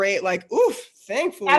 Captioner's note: exclaims